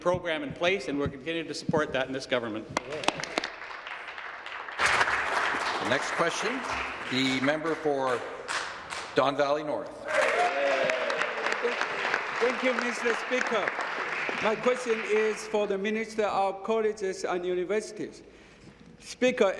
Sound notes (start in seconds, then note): 7.8 applause; 13.7 applause